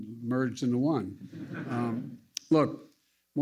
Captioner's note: laughter